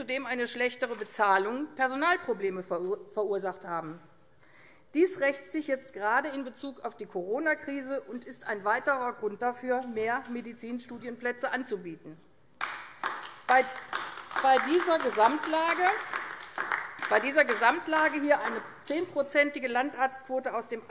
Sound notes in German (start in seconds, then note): 12.6 Beifall AfD